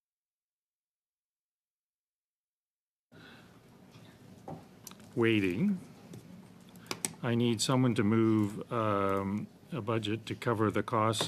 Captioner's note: silence